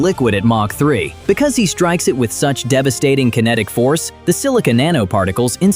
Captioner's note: thoughtful